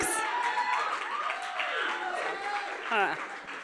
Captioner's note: cheers and applause from audience